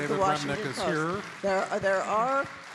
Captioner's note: audience applauding